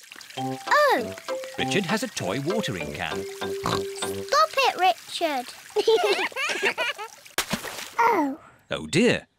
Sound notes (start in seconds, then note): 3.6 oinks; 5.9 both laugh